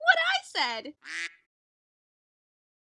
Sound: quack

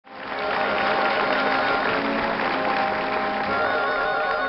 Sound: audience applauds

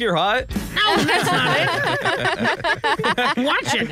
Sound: laughs

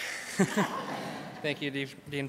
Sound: crowd laughs

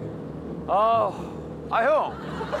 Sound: sighing

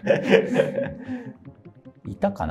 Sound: laughing

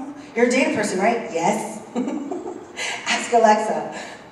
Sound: laugh

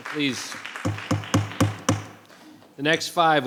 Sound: bangs gavel

